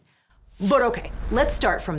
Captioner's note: air whooshes